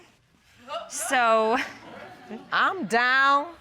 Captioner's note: audience exclaiming, laughing